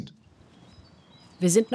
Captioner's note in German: Vogelzwitschern